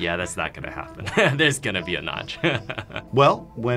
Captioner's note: laughs